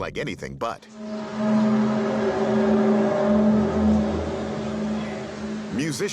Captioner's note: groaning sound